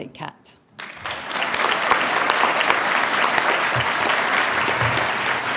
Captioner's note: audience applauding